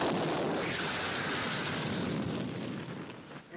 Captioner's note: rock hissing